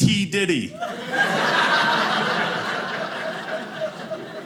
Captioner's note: audience laughing